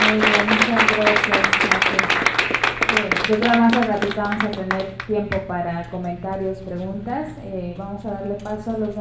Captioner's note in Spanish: Aplausos